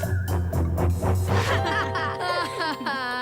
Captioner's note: laughing